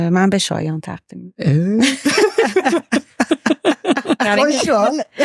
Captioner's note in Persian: خنده